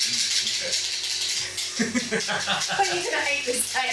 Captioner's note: laughs uncertainly